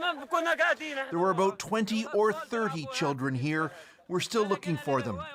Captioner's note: speaking alternate language